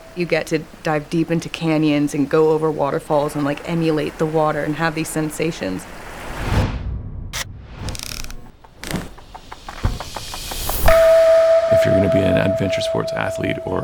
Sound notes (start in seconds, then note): 7.8 camera clicking; 10.7 musical tone rings